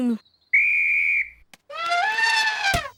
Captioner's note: blows whistle; trumpets